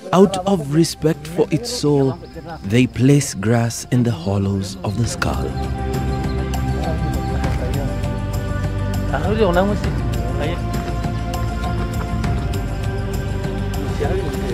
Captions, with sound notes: out of respect for its soul, they place grass in the hollows of the skull. (upbeat music) (speaking foreign language)